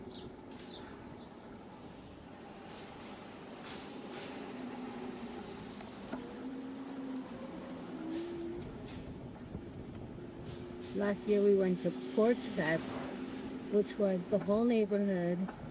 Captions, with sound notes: (birds chirping) Last year, we went to Porch Fest, which was the whole neighborhood.